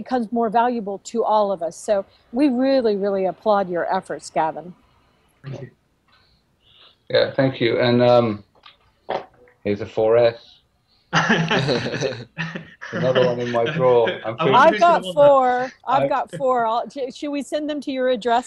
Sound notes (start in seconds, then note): 11.1 laughter